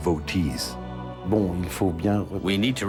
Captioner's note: speaks in foreign language